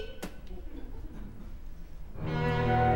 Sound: laughter

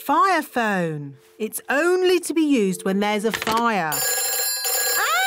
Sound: phone rings

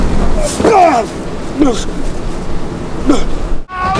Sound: grunting

